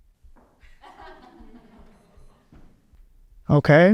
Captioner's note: audience laughs